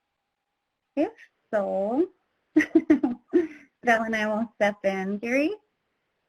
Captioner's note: laughs